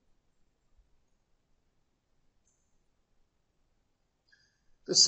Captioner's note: silence